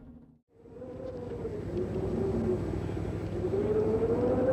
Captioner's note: wind howling